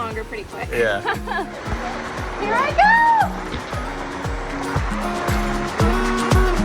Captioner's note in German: Applaus